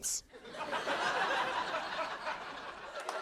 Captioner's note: laughter